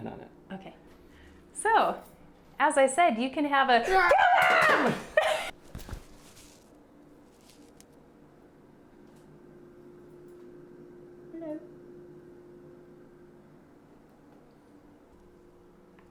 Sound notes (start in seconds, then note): 8.5 yells